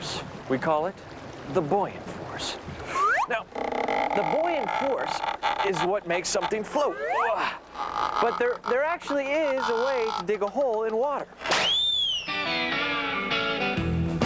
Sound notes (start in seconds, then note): 6.9 groans; 11.5 high-pched whistle